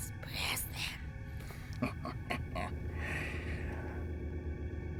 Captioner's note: evil laugh